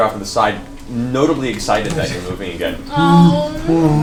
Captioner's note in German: Bärengeräusche